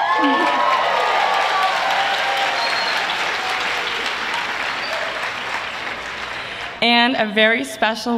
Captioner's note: applause